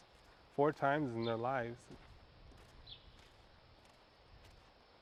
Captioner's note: birds chirping